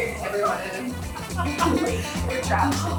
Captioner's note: members laughing; upbeat music